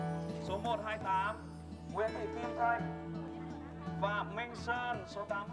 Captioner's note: calling names in foreign language